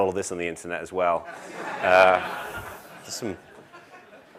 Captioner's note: laugh